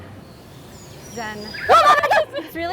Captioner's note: animal noises